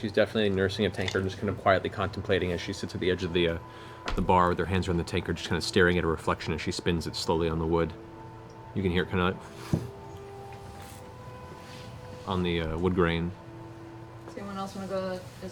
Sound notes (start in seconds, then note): 9.1 scuffing